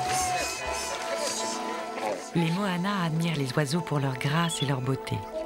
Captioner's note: applause